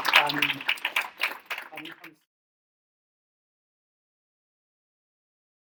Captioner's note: audience laughing